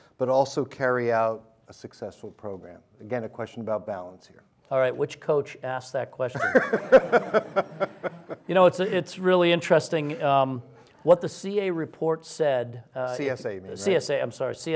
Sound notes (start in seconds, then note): 6.4 audience laughs